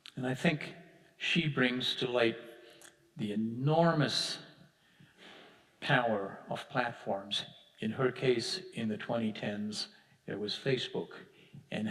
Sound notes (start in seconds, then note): none